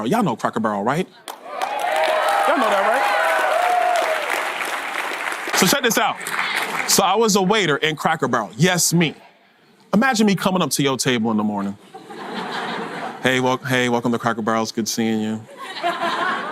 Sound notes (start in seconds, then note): 1.3 audience cheers and applause; 11.8 audience laughter